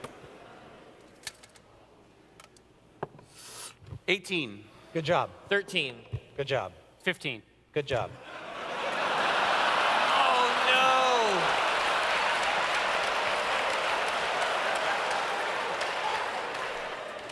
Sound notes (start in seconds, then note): 8.2 laughter; 11.5 audience cheers